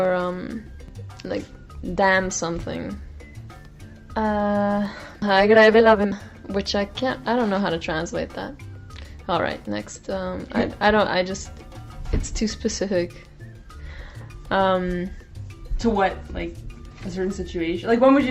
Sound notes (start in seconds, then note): 5.5 speaking Spanish